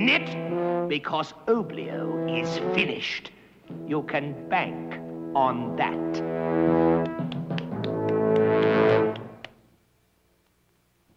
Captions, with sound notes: Because Oblio is finished. You can bank on that. (clapping)